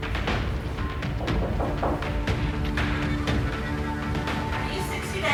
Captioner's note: knocking